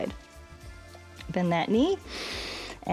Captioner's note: inhales